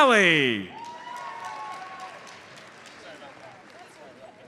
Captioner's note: audience applauds